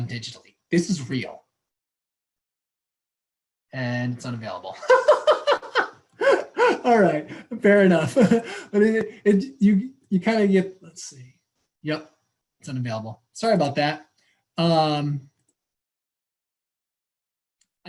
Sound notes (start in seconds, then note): 9.9 chuckle